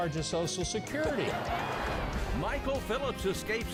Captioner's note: audience laughing